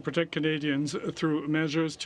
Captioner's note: speaking french